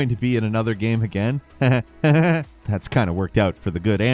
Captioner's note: chuckles